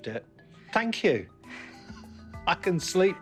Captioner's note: both laugh